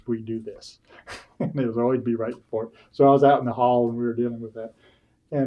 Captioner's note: laughs